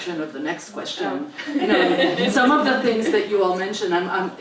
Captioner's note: laugh